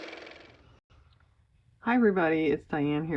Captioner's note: car motor